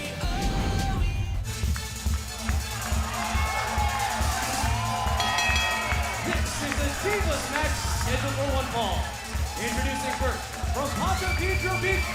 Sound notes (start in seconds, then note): 4.0 crowd cheering; 5.1 bell dinging